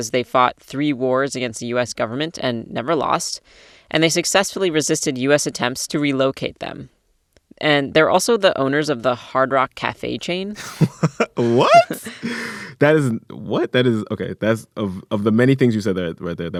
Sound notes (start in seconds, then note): 10.5 laughter